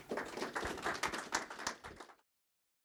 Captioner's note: applause